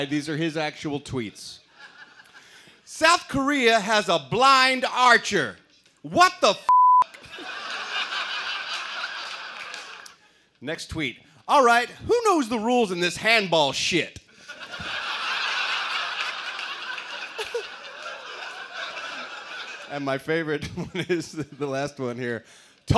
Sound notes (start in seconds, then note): 17.1 laughter